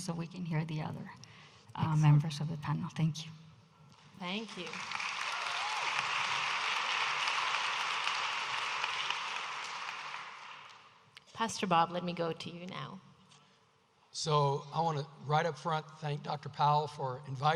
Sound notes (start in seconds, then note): 8.3 audience applauding